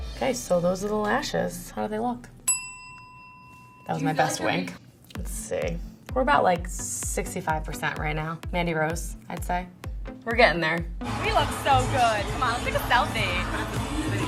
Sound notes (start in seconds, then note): 2.4 bell dings